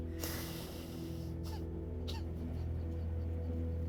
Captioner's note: sobbing